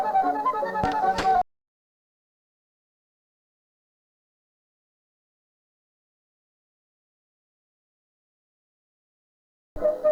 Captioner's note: audio cuts out